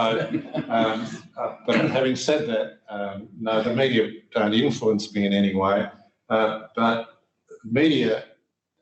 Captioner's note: laughter